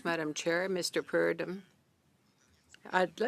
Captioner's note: speaking in French